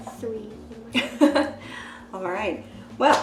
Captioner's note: laughs